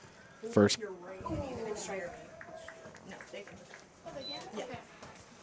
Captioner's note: indistinct chatter